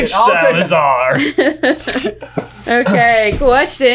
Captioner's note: laughing amusingly